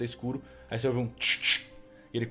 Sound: tch tch

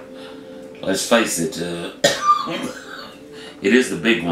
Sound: coughs

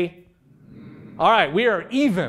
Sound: humming

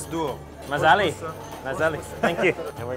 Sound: speaking foreign language

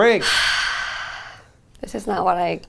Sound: sighing

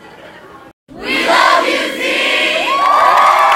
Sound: crowd; cheers and applause

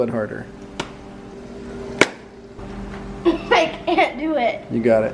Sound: hand smacking

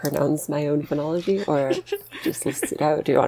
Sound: laughs

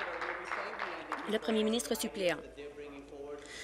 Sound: applause

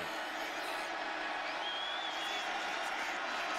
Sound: crowd cheering

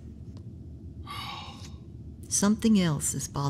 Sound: Chartrulean sighs

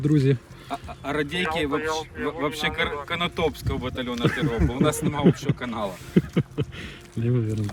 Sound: on the walkie

